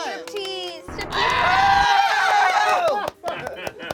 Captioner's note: screaming